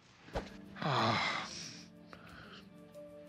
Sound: sighing

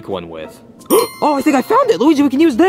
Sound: bell chimes

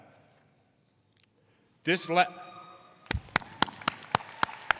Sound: audience applauding

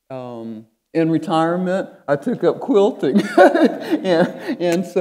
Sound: laughing

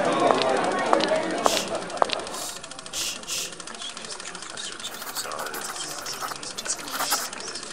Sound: footsteps & People Talking Nondescriptly

